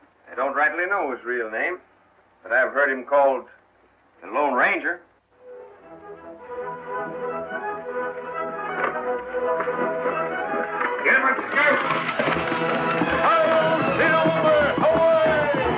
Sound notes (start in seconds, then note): 8.5 adventurous music; 8.5 shouts